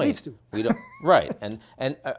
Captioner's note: laughing